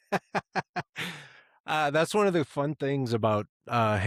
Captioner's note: laughs